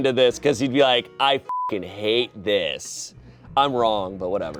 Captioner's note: beep